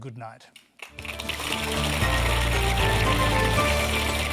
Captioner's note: applause